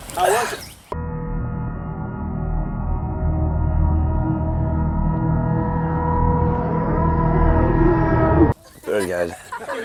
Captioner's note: hell noises